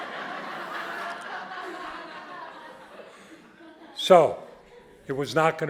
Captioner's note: audience laughing